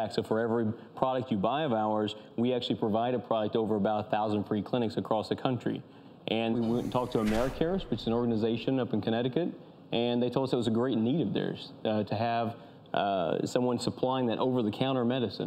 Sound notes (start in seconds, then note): none